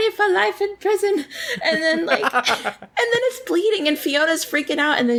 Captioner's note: laughs